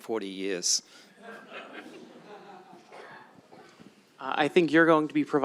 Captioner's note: laughter